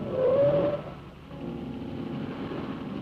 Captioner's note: tires squealing; ominous music